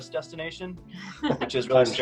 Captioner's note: laughs